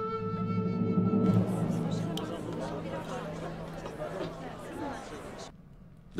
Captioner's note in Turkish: Sokak ortam sesleri